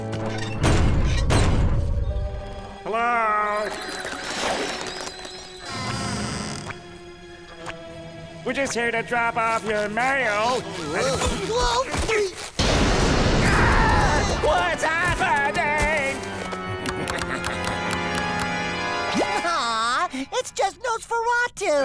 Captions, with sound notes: [knocking] Hello. [creaking] We're just here to drop off your mail. Whoa. [thundering, screaming] What's happening?! [clicking] Aw, it's just Nosferatu.